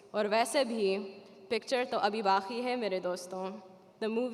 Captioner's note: speaking Arabic